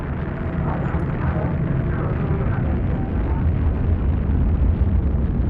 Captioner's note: rockets firing